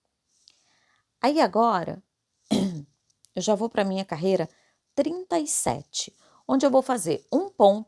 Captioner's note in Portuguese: limpando a garganta